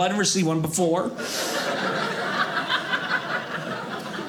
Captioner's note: audience laughing